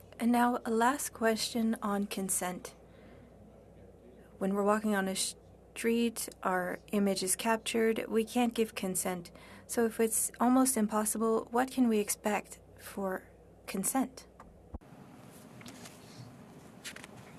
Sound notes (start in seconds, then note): 5.8 speaking French